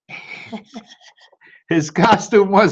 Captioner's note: laughter